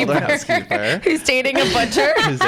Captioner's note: laughs